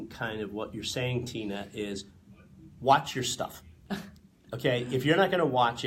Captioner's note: laughs